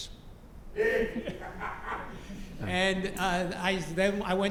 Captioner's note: laugh